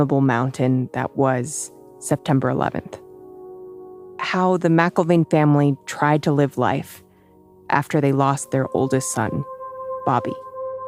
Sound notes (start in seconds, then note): none